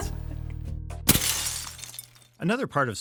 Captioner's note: laughing; glass shatters